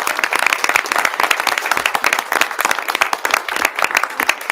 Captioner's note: audience clapping